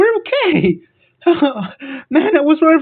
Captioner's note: sighs out of low quality relief